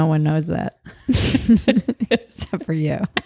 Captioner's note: both laugh